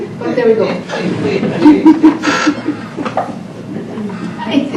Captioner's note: laughs